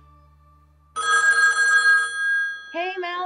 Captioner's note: phone rings